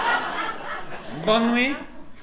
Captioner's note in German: Französischer Akzent